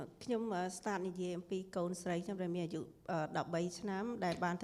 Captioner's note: speaking foreign language